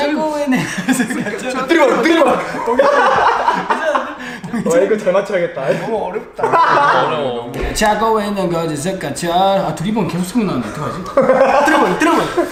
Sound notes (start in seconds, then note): 0.6 cracks up